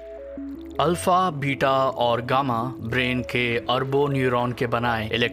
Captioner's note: speaking mandarin